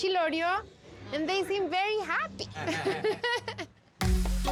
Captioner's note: laughs